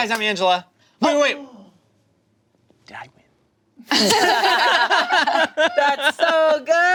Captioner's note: group laughing